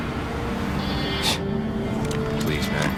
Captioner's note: scoffs